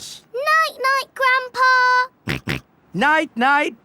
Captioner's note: snorts